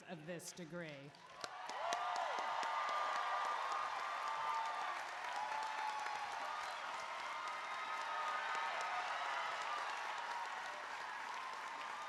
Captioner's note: applause